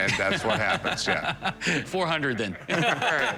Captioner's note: laughs